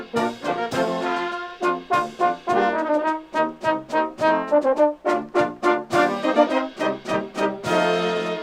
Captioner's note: none